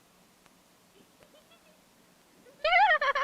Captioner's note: Judy giggling